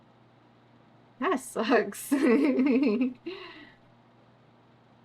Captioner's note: laughs